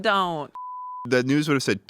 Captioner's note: beep